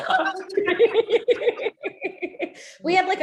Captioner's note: both laughing